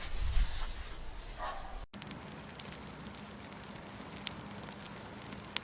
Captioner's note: crackling of fire